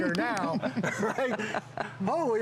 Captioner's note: laughter